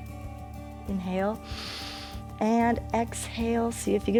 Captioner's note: inhales